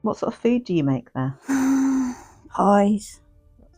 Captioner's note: deep sigh